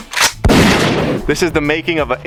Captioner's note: gun cocks; gun fires